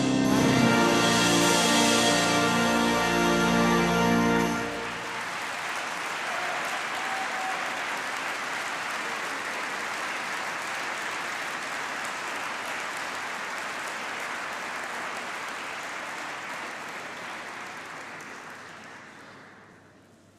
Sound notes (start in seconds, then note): 4.5 applause